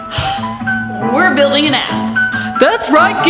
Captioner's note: sighs; gentle music